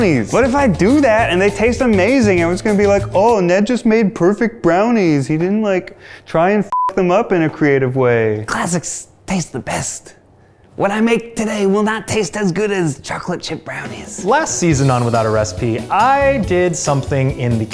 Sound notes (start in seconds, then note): 6.7 beep